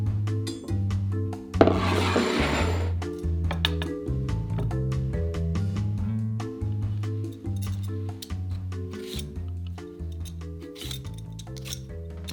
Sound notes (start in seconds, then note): 1.6 bowl slides